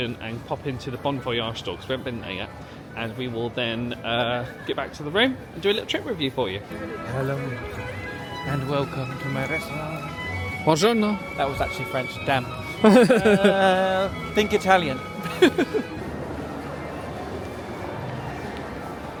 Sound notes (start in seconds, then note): 15.9 laughing